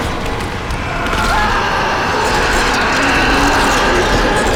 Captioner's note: Josh screaming